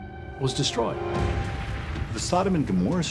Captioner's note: crackling flames